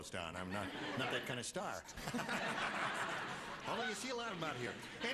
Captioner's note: laughter